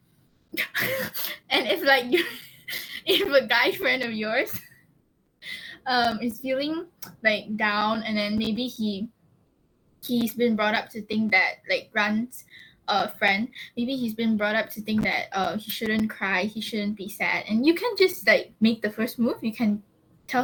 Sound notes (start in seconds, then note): 0.6 laughs